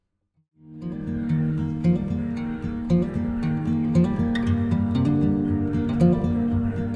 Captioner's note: bright upbeat music; crows cawing